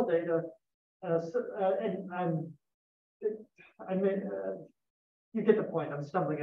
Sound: verbal stumbling

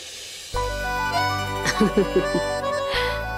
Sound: laughing

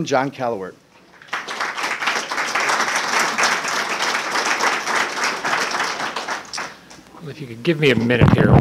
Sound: applause

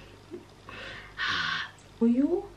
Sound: weird upset throat sound

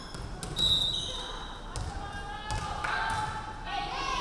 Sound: referee whistling

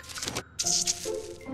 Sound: squirt

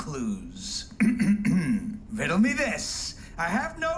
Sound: clears throat

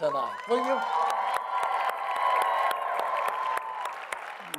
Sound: congregation cheers

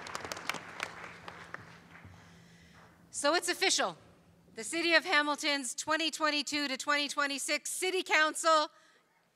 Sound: cheering and Applause

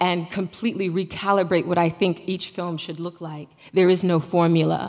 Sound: none

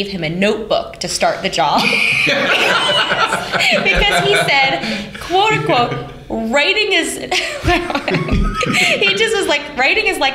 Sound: laughter

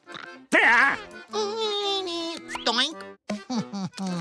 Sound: humming

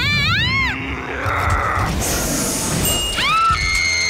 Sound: growling and hissing; screaming

